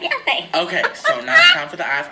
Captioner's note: laughs